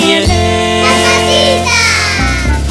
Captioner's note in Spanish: coro de niños gritando